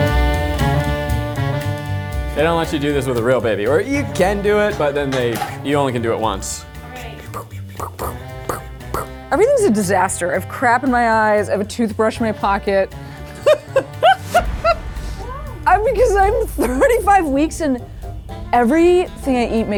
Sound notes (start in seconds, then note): 13.2 laughs